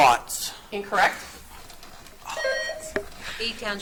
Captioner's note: buzzer beeps